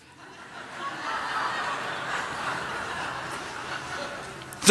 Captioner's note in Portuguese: Risos